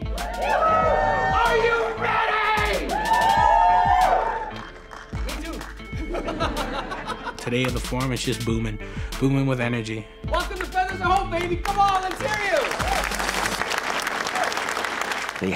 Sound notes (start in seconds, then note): 0.0 audience cheers; 6.0 laughs; 12.7 audience applauding